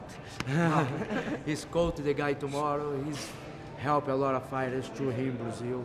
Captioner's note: laughter